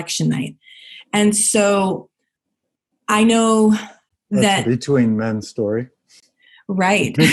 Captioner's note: laughing